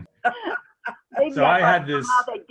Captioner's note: laughing